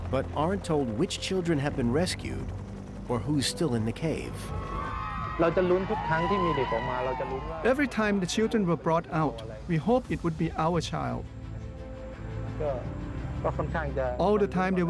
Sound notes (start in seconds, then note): 4.6 cheering; 5.1 man speaking Thai